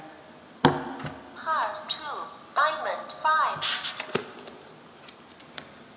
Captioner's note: Electronic voice: Heart 2, Diamond 5